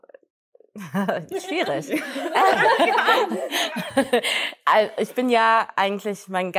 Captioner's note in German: Gelächter